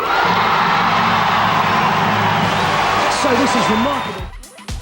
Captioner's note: audience applauding and cheering